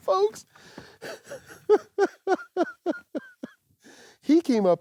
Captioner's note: laughs